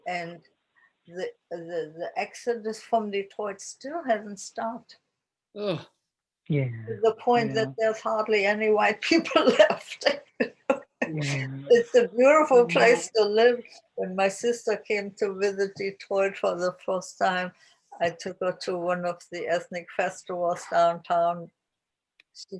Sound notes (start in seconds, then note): 11.0 laughs